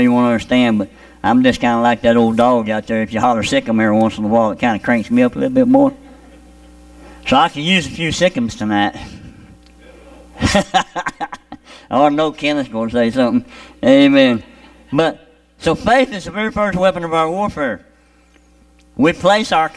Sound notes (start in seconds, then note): 10.3 laughing